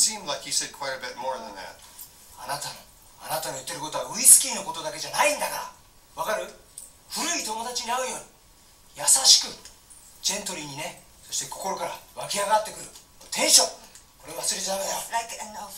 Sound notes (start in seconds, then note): 2.3 talking Japanese